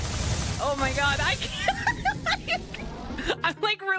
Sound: laughing

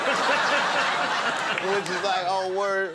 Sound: laughing

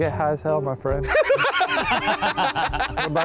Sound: group laughing

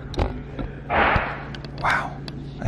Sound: crash

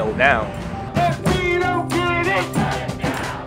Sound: chanting

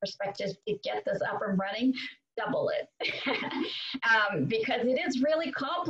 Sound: laughs

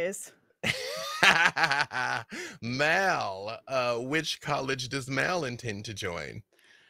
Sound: laughs

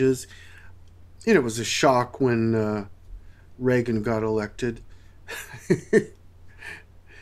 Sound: laughs

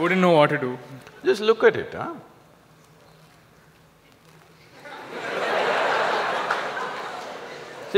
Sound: laughter

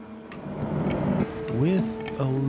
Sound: loud whooshing

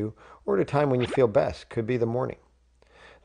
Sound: sound effect

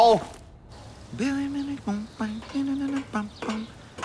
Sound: humming

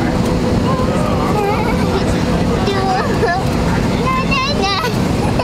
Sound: vocalizing, giggles

